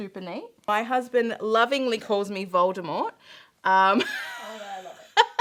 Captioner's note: chuckling